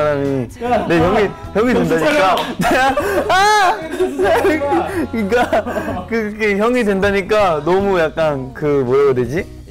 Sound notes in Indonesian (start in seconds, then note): 2.3 Clap Clap